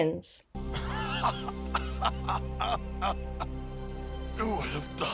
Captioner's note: satisfied laughter